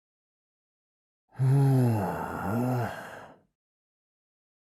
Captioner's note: sigh